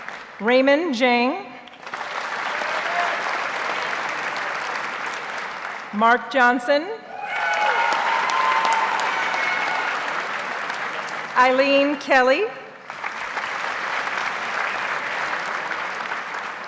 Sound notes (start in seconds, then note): 1.7 audience applauds; 7.1 audience cheers and applauds; 12.8 audience applauds